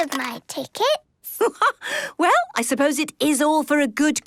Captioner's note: laughs